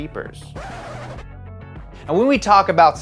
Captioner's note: record scratching